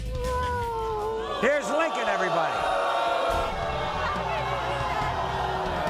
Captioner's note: audience boos